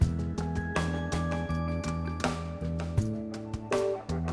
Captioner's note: none